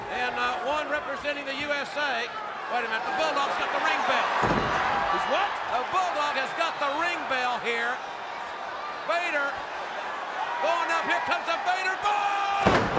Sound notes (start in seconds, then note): 4.3 crowd shouting